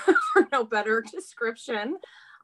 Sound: laughter

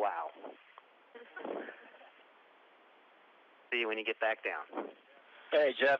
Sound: laughter

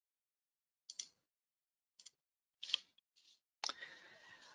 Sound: mouse clattering

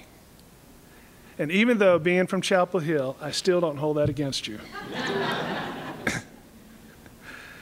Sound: laughter

